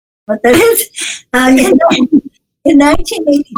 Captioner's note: laughs